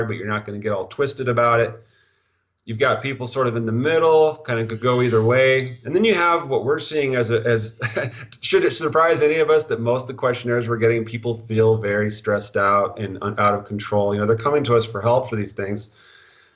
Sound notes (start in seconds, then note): 6.9 stuttering; 7.2 laughing